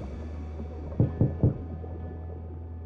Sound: knocking

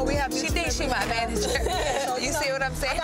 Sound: laughs

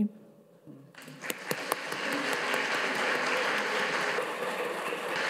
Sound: audience applauds

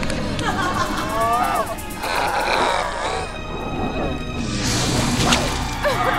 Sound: dramatic instrumental music; laughing

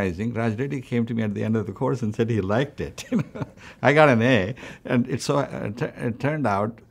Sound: laughs

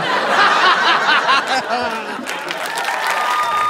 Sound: evil laugh

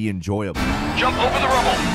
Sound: car engine revving

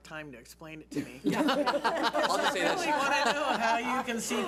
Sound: board laughs

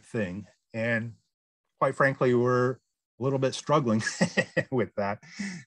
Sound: laughs

